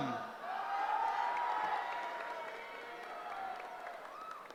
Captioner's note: cheering